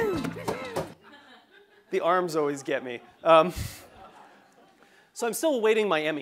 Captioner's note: laugh; laugh